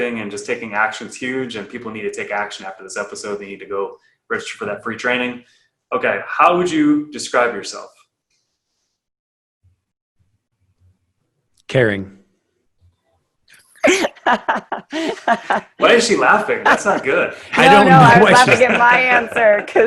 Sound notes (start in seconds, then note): 13.8 laughing